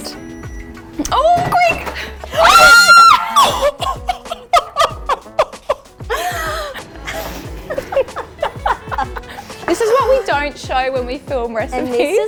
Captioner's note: screams